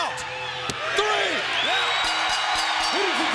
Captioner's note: bell ringing